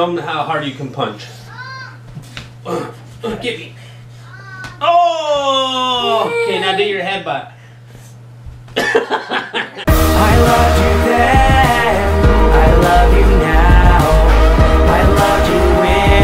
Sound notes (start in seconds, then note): 8.8 laughs; 9.8 upbeat music